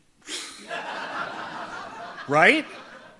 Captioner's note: audience laughs